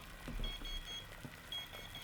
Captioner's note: beeps